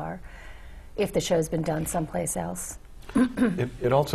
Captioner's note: cough